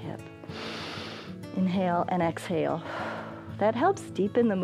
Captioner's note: exhales; inhales